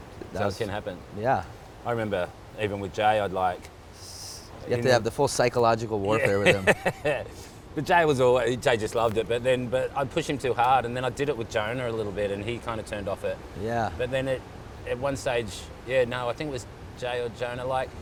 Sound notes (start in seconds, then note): 6.1 laughs